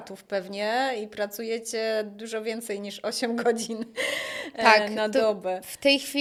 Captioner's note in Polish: wciągnięcie powietrza